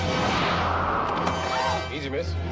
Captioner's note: air whooshes